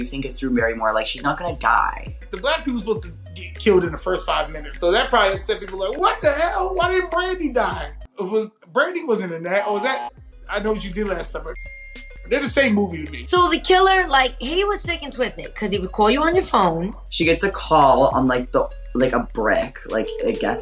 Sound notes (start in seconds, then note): 9.6 buzzer rings; 11.6 bell dings; 19.9 phone ringing